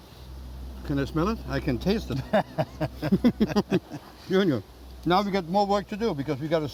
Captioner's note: laughter